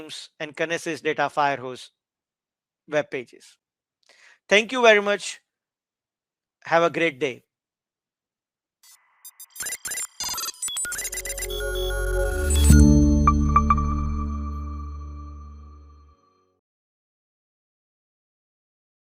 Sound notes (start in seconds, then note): 9.2 robot beeping; 11.0 soft music